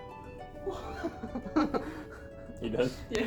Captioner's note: laughs